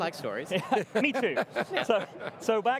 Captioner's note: men laughing